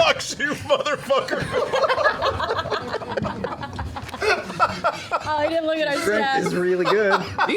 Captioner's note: laughter